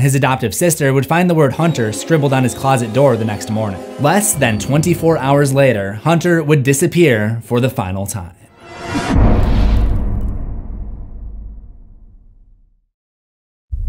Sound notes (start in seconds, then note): 8.6 impact